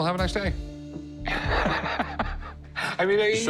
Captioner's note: chuckles